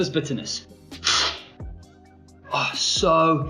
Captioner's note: slurping sound